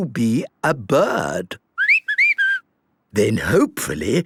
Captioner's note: whistling